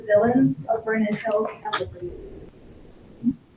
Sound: speaks faintly

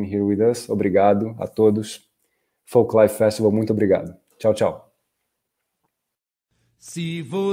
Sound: speaking in Portuguese

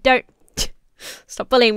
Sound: chuffs

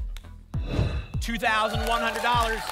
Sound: whoosh

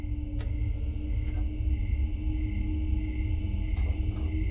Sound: mechanical whirring

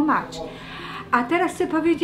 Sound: in Polish

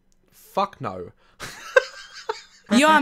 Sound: laughs

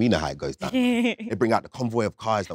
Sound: Letitia chuckling

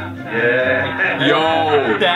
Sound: muffled man's voice

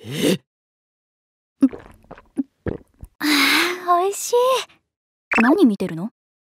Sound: gulp gulp

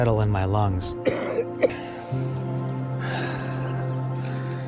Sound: coughing

